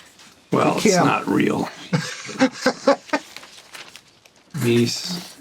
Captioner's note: chuckles; Gilligan laughs